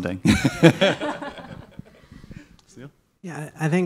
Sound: all laughing

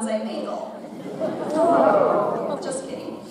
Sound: audience laughs

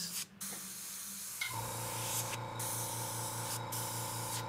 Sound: motor whirring

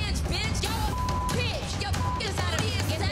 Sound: beep

